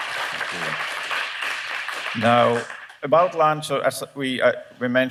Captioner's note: applause